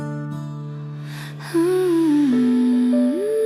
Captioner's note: humming